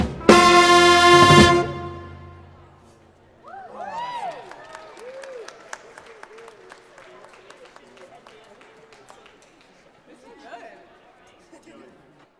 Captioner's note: cheering and Applause